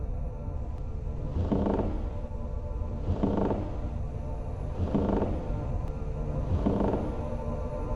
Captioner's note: eerie ambient music; floor creaks